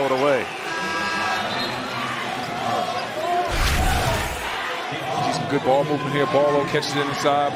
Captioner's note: buzzer